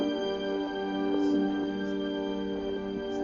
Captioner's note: murmuring